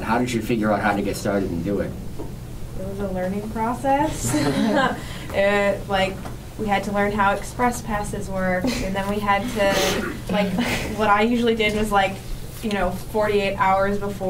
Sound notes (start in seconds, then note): 4.1 laughs